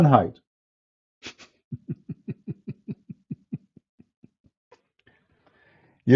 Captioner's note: Ketawa